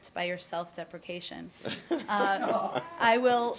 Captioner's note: laughter